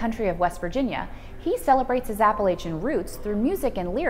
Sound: none

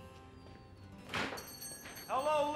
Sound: jingling

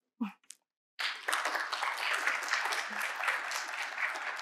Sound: crowd clapping

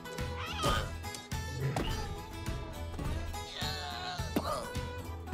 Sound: Scrat groaning

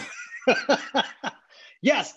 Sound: laughing

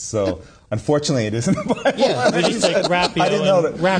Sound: laughing

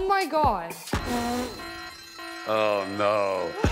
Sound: alarm blaring

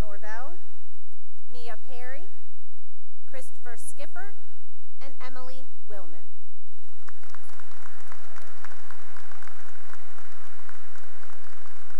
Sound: cheering and applause

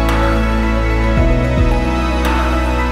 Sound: none

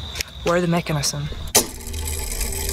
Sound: mechanism whirring

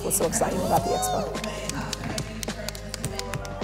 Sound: female voice; calming music

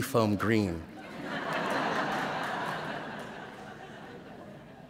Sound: laughter

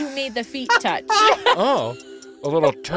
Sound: both laughing

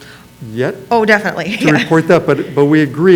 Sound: laughs

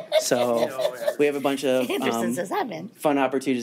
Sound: laughs

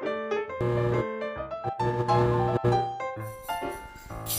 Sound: light buzzes

